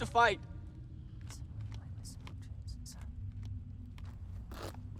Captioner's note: whispers